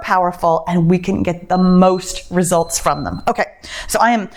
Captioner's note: timer beeps